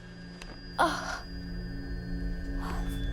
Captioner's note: grunt